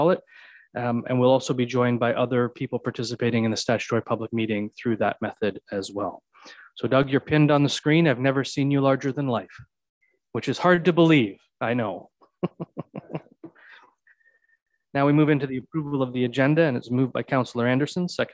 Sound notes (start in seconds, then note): 12.4 laughs